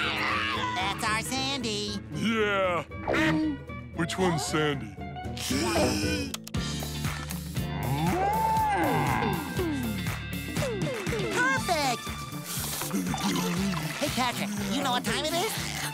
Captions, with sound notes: -That's our Sandy. -Yeah. Which one's Sandy? [mooing] Perfect! Hey, Patrick. You know what time it is?